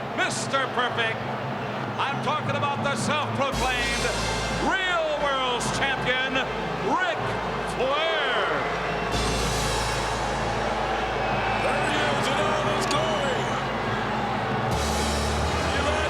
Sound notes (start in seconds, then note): 8.4 bombastic music; 9.6 crowd booing